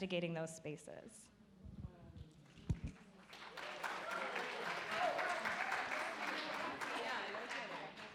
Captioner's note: audience applaud